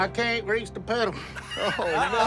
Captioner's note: laughter